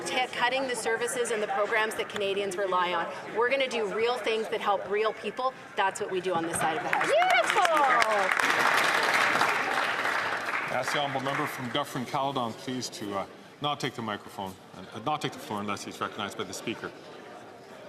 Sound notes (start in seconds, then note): 11.6 some Applause